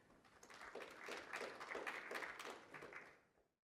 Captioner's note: audience applauds